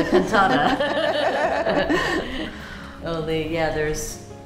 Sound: laughter

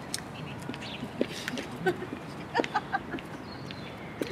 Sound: laughs

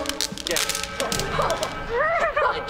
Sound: chuckles

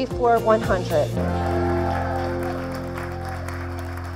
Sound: applause

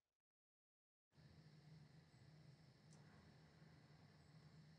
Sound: crickets chirping

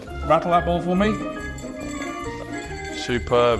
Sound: ball jangling

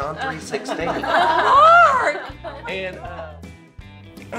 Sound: laughs

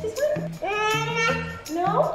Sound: babbles

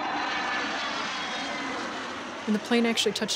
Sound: jet plane flying past

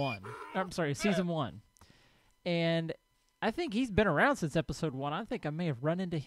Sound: llama calls; donkey brays; horse snorts

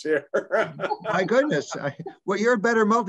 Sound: laugh

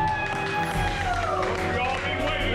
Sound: applause

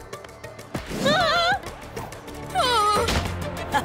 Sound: groaning; laughing

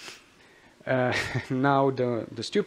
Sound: chuckles

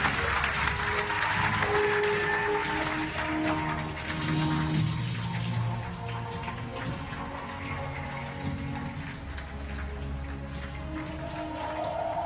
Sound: applause and Cheering

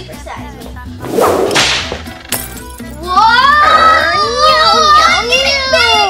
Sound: whip cracks, glass shatters

